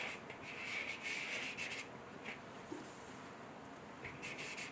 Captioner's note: eraser scratching